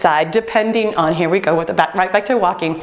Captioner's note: beeping